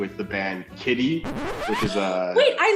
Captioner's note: record scratch